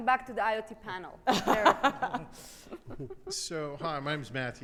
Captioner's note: laughs